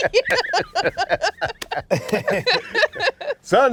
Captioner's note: laughter